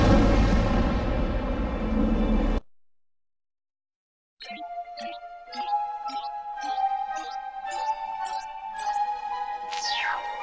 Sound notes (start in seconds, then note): 4.4 beeping